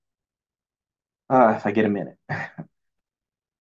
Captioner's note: groans